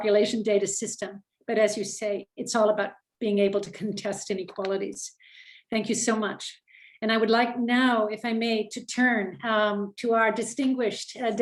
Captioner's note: French language